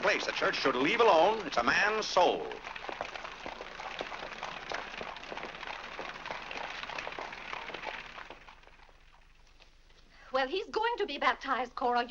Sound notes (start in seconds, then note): 2.8 hooves trotting